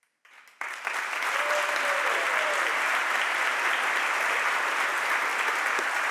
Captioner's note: audience applauds and cheers